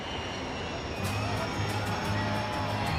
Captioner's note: crowd cheers